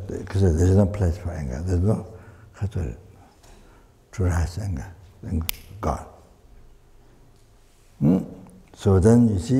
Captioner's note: snaps his fingers